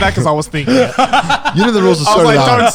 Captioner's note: laughing